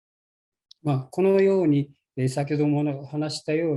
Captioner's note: speaking japanese